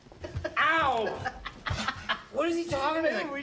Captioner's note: laughs